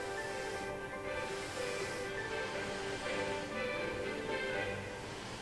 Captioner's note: dragging along floor